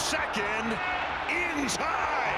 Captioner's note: cheering